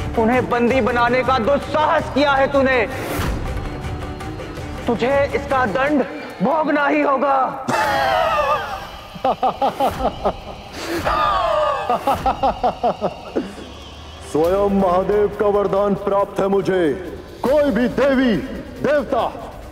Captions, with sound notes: 'You dared to captivate him!' 'You will have to suffer for it!' [snorts] [laughs] 'I have Lord Shiva's blessing.' 'No god, goddess'